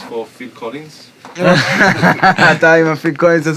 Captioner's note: laughs